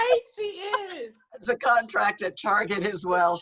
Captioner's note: laughs